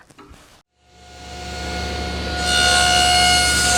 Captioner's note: saw cutting